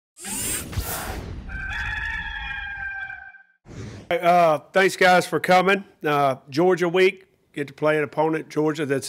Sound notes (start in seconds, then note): 1.4 cock crowing; 3.7 air whooshing